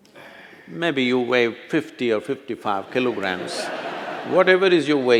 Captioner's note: laughter